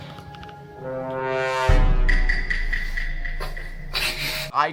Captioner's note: Among Us “sus” sound